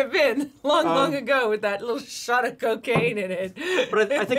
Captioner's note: laughs